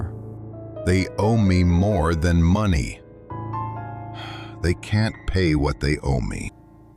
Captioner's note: sighs